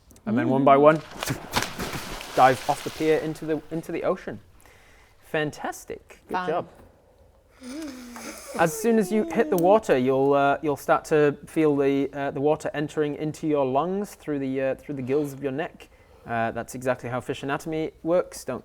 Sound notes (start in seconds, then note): 0.8 splash splash splash splash